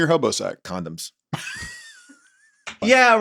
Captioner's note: laughs